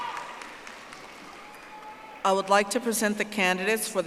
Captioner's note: audience applauding